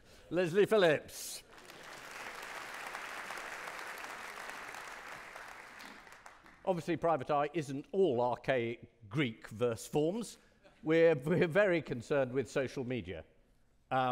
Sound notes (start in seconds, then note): 1.4 audience clapping